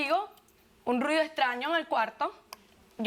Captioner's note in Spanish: none